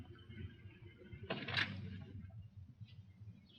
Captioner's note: engine rumbling; door opens